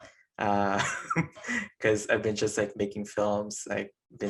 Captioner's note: chuckling